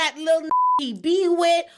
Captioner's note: beep